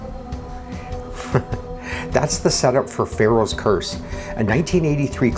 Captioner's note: chuckles